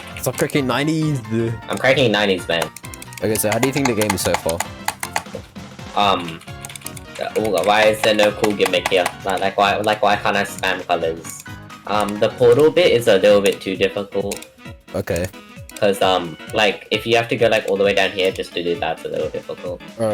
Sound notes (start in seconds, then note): 2.4 helicopter clicking